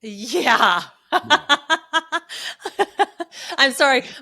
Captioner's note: laughing